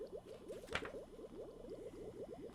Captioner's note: flips page